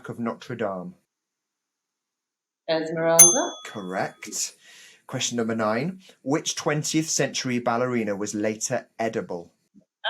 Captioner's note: bell dings